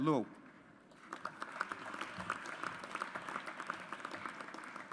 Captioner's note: audience applauds